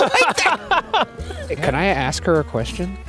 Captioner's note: laughs